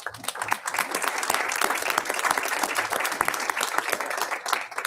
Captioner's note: audience applauds